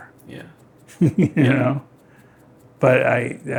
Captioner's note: chuckles